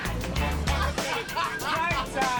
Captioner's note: laughter